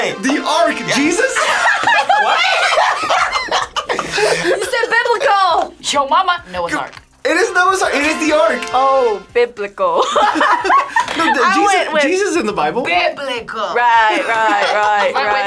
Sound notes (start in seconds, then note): 0.9 group laughs; 10.0 laughs